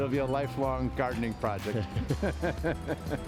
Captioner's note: men laughing; gentle music